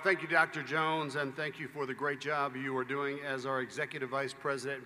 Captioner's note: applause